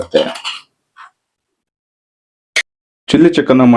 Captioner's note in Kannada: ಗಂಟಲು ಸರಿಮಾಡಿಕೊಳ್ಳುವಿಕೆ